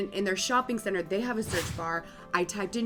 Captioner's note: whoosh